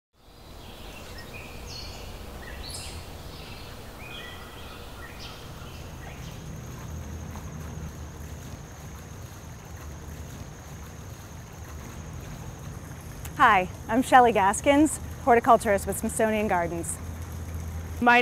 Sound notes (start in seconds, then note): 1.4 birds chirping; 6.8 water flowing